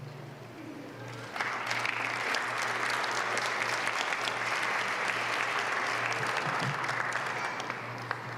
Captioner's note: applause